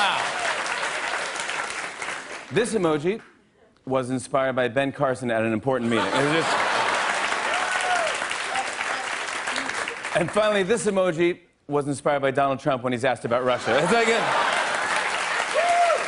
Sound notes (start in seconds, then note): 0.0 applause; 5.8 laughter and applause; 13.4 laughter and applause